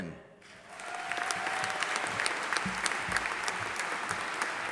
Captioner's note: audience applauding